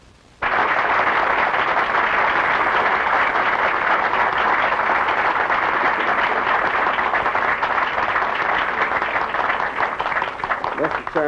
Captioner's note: applause